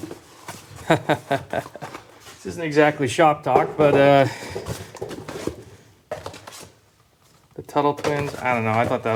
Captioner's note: chuckling